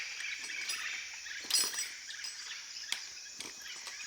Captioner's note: birds chirping